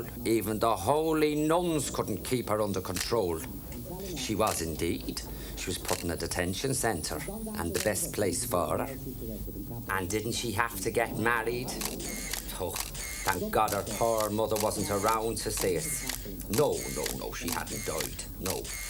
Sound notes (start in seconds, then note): 11.7 camera clicking